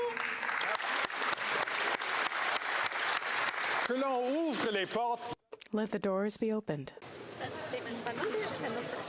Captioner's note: applause